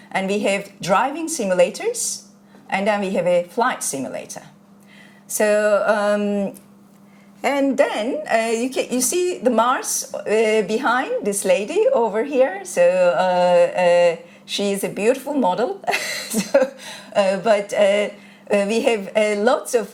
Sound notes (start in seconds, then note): 15.9 chuckles